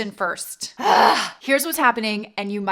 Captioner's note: deep sighs